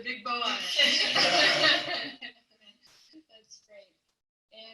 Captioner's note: all laugh